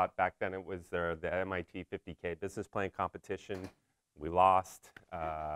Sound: none

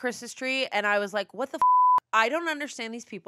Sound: beep

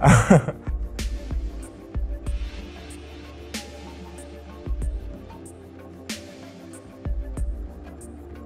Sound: laugh

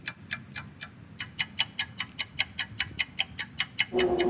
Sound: fast loud ticking; eerie music

